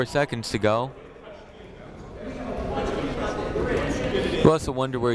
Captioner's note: people talking in the crowd